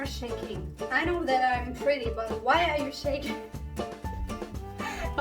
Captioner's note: laugh